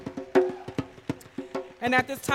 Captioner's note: applause